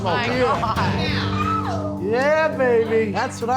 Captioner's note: staff cheering